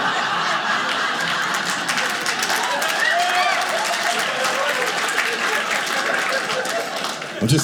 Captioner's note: audience laughing; audience applauding